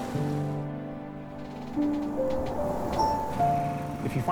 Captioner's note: crickets chirp